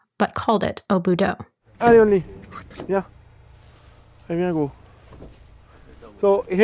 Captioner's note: sounds of car doors closing, then the sound of footsteps in high grass